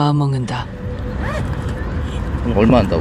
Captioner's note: sound of opening bag